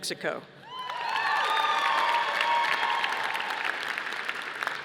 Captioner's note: audience applauding